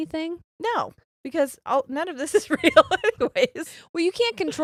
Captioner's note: giggles